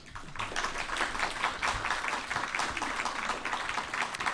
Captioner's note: audience applauding